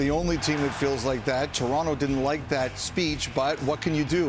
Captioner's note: cheering